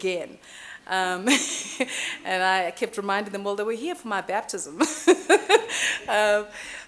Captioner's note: chuckling